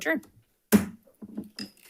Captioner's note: gavel thwacks